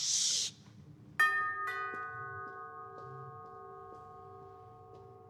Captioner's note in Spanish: Timbre de la puerta